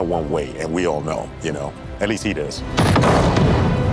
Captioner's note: explosion roaring